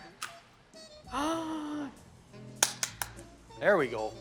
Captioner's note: gasping